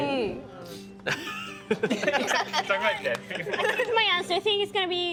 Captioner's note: all laughing